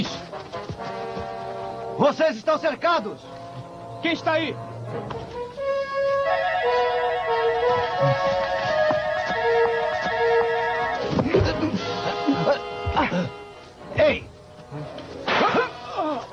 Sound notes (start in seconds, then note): 9.9 shouts